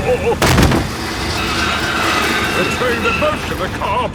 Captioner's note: thud